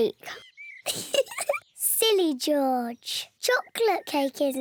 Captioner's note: laughs